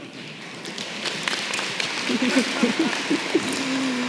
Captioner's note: applause